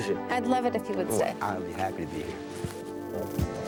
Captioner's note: Munch